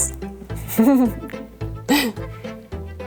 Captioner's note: laughs